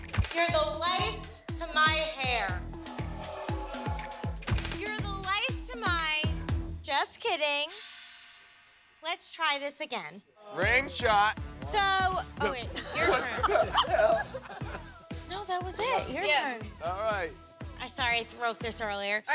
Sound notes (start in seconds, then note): 2.9 crowd booing; 8.0 dramatic tone; 12.6 laughter